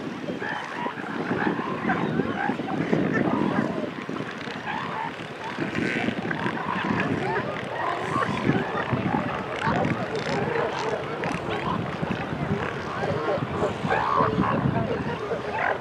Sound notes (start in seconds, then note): 2.0 distant seal and gull vocalizations